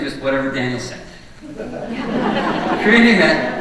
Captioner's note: audience laughing